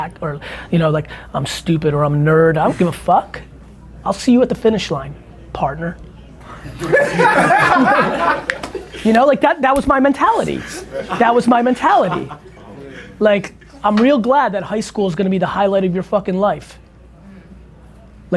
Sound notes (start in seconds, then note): 6.4 group laughter